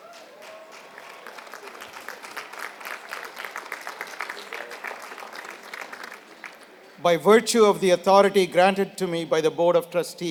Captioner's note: applause